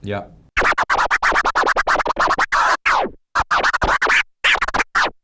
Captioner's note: record scratching